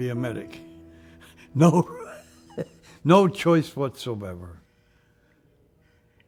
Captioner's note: chuckles